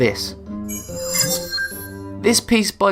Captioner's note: sharp chiming